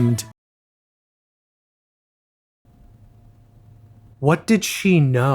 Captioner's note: silence